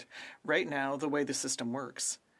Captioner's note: speaking french